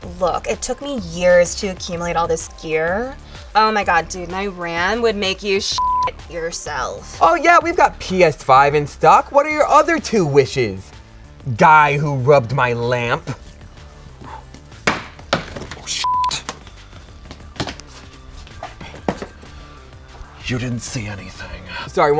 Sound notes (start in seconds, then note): 5.7 beep; 14.8 bangs into boxes; 16.0 beep